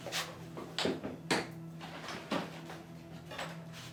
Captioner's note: kitchen sounds